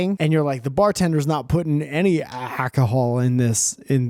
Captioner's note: none